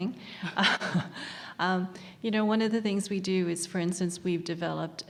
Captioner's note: laugh